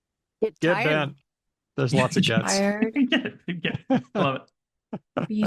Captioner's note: laughs